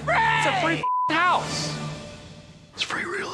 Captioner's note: beep